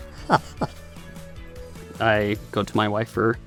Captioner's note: laughing